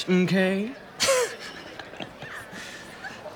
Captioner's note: laughing